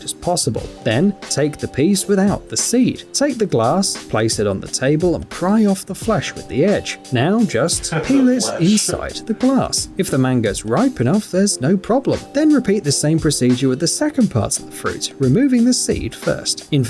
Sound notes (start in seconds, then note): 7.8 laughs